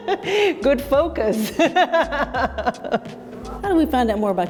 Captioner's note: laughs